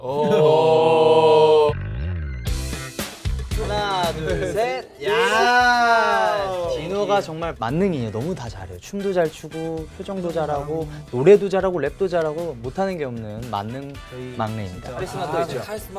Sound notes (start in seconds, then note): 1.9 upbeat music; 3.7 counting in foreign language